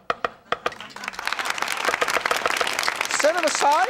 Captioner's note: applause